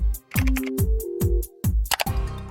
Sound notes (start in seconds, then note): 1.9 mouse click